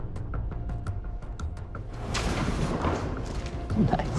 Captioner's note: blow impacts